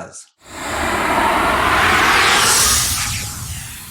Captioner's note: logo whooshing